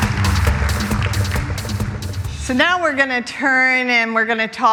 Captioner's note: applause